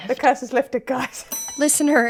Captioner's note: bell ringing